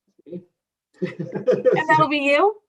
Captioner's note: laughing